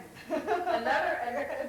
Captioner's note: laughs